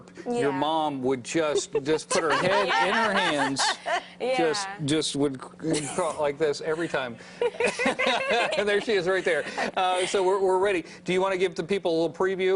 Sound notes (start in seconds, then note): 4.3 laughter